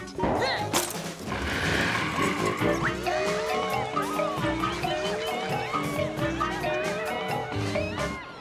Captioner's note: tires screeching; campy music; kids chattering